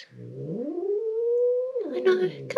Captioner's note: growling